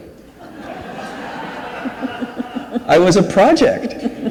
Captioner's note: audience laughs; laughs